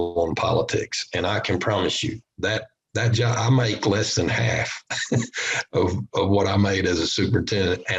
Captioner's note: laughter